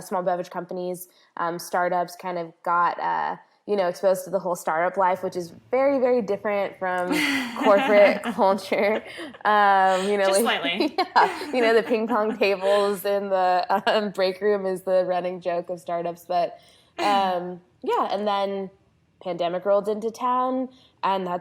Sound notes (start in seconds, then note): 9.8 laughs